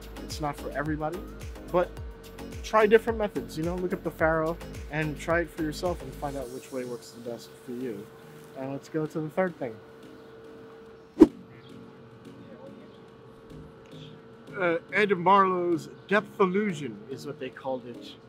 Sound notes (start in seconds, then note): 11.2 air whooshing